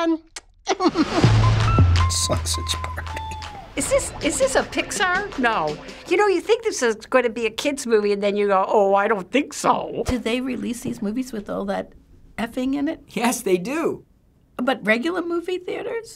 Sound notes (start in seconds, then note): 0.7 snickers